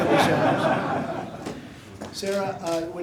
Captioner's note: laughter